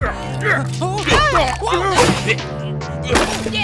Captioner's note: struggle grunting